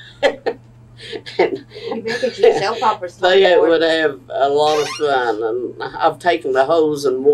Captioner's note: laughs